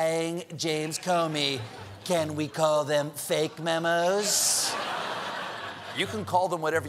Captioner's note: laughter